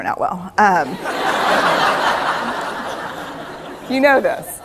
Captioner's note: laughter